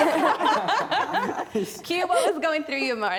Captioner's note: laughter